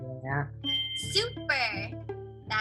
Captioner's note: bell dings